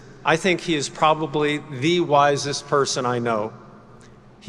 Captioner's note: none